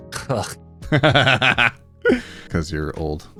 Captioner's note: laughing